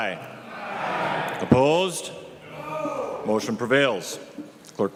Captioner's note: chorus of ayes